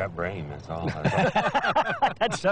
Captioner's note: laughter